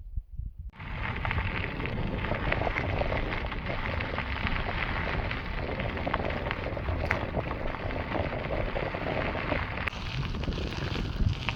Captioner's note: tire noise